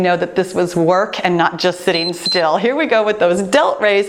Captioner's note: timer beeps